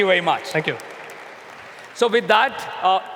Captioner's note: applause